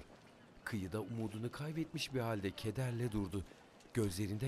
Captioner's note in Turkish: Sokak ortam sesi